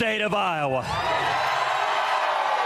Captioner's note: applause